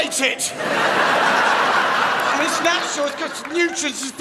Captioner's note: crowd laughs